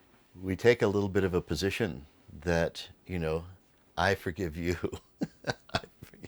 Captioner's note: laughs